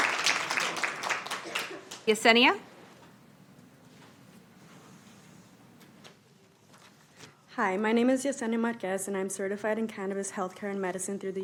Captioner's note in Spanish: Aplausos